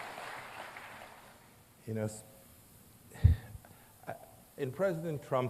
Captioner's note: applause